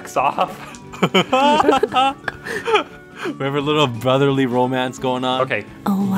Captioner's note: laughs